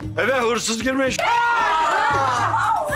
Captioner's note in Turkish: Çığlık sesleri